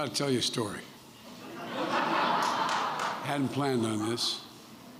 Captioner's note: laughter